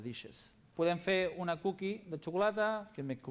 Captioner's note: non-english speech